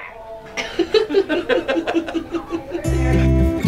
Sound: laughter

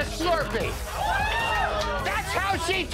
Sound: patrons laughing and cheering

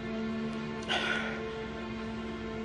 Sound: exhales

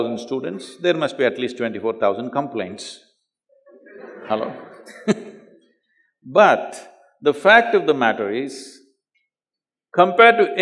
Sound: laughs; laughter

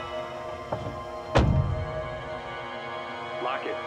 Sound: door thuds

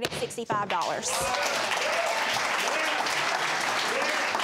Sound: audience applauds

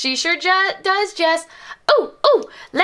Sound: imitates Jessie's voice

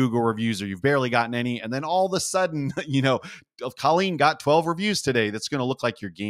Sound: laugh

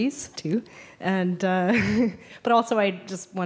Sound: laughs

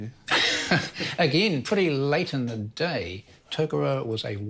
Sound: laughs

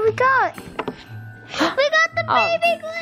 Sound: gasps

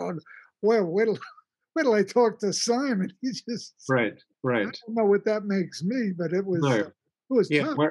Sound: laughs

